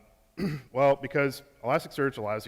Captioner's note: clears throat